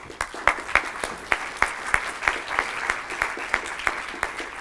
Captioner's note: applause